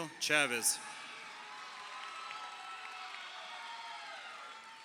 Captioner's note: crowd cheering